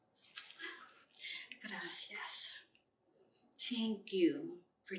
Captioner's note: Spanish